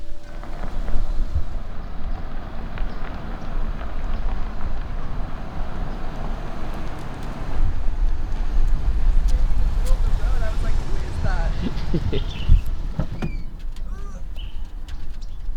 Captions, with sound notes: (car rumbling) You were standing in the middle of the road, I was like, who is that? (camera holder laughs)